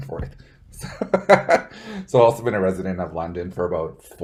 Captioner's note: laughs